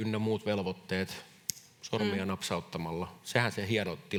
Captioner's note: sormien napsaus